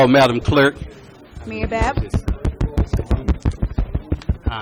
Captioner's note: tapping on microphone